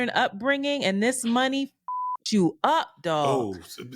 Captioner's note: beep